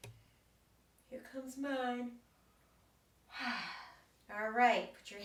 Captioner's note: exhales